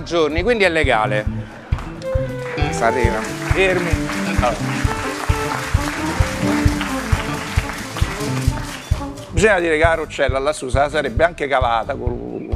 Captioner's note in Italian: Applauso